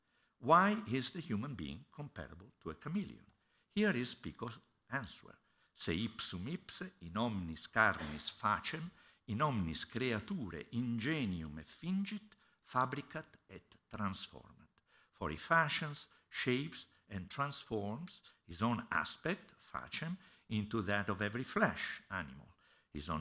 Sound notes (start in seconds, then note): 5.6 non-english speech